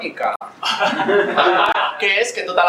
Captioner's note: laughs